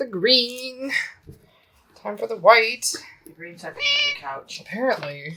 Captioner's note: meow